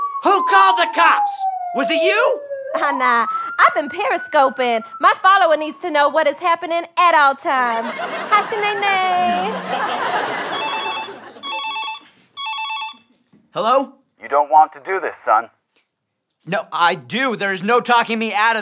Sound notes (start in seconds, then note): 0.0 sirens; 9.5 phone rings